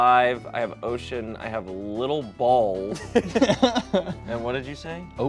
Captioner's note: players chuckle